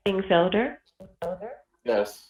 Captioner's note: audio echo